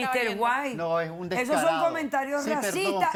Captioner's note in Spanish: Hablan al unísono